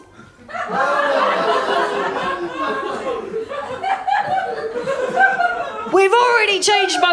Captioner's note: laughter & surprise